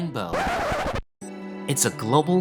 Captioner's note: turntable needle scratches